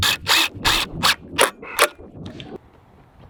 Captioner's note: drilling